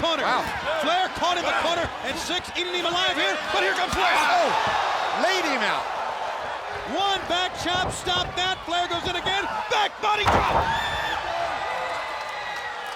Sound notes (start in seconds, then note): 4.5 blows thudding; 11.3 body thudding